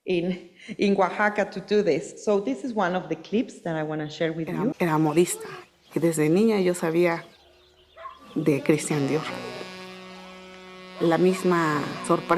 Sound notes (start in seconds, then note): 5.0 speaking Spanish on video; 9.9 soft music